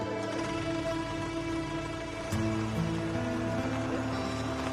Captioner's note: car drives off